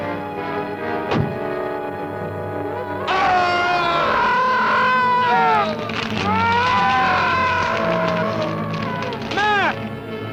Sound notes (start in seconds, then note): 1.1 door thuds; 3.0 mac screams; 3.0 gargon wails